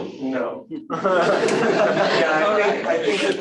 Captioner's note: laughter